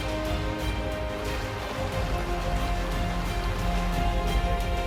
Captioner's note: water splashing